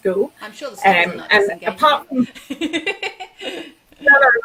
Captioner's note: laughs